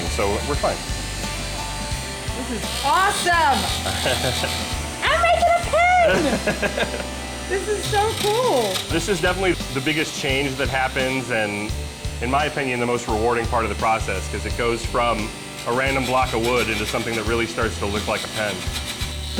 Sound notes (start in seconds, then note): 3.6 chuckles